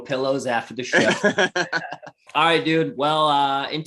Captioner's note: laughing